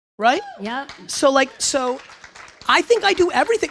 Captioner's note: audience applause